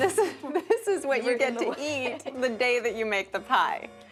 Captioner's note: laughs